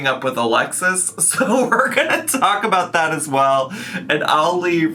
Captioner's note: laughing